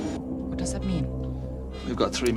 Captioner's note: beeping